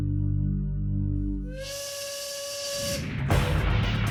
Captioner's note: whistle blowing